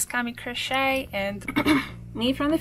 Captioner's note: clears throat